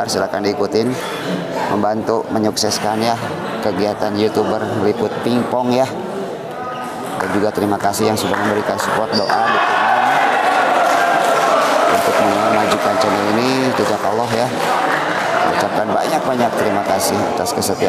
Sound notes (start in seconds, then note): 10.0 applause